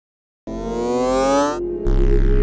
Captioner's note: winding up noise